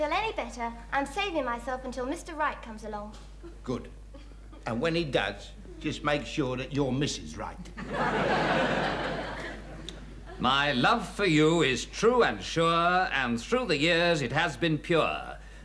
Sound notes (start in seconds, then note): 7.8 audience laughing